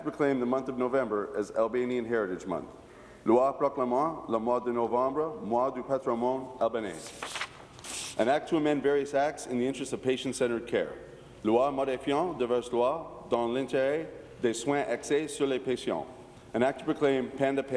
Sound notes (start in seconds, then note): 0.0 repeating in french; 7.8 repeating in french; 16.9 speaking in french